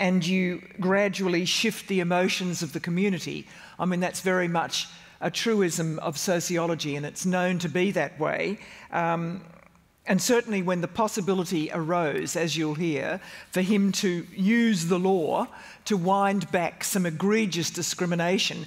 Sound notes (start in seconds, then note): none